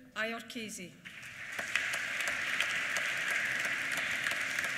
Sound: applause

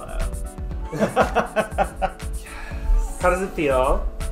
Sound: both laughing

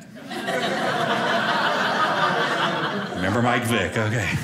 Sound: audience laughing

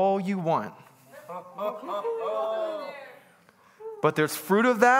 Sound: congregants bustling

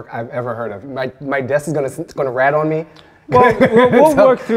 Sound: laughing

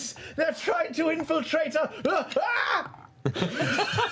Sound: screams

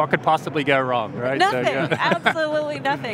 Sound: laughs

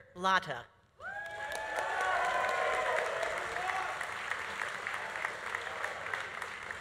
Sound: audience cheering; audience applauding

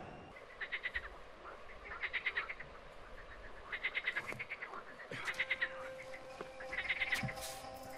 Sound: nature sounds; haunting music

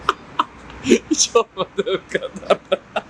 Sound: laugh

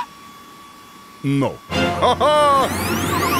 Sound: laughing

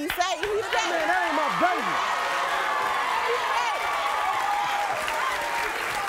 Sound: audience cheers

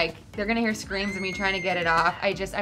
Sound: scream

